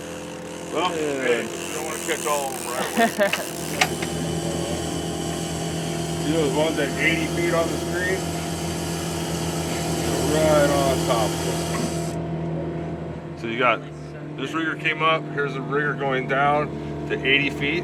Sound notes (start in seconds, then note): 4.5 chuckling